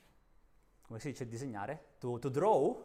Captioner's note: talking in Italian